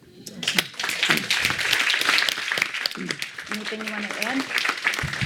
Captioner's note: audience applauding